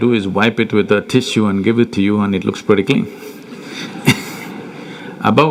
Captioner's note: laughter